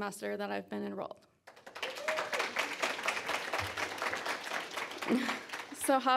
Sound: applause and cheers

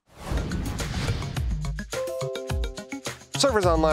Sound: bell chime

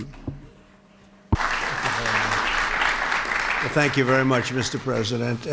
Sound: applause

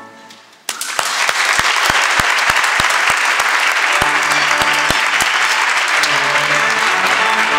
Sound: applause

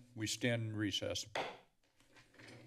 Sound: gavel bangs

